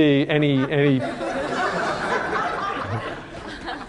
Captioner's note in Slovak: Smiech